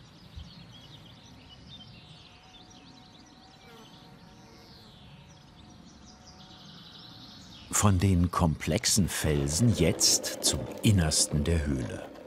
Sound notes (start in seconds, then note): 0.1 birds chirping and distant chainsaw hum; 4.5 bees humming